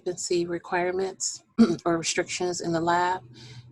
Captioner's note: clearing voice